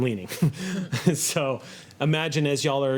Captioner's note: laughing